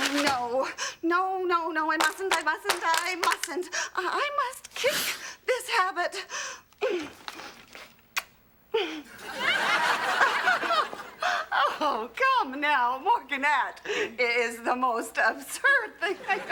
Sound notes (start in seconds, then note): 8.1 blowing a kiss; 9.0 nervous laugh